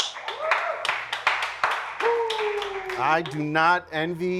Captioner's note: contestants applause